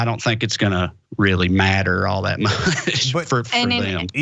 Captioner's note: laugh